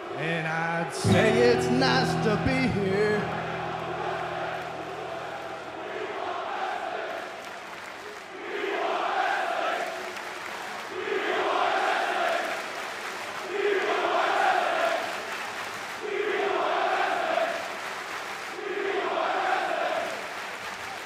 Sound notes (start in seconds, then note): 6.8 fans chanting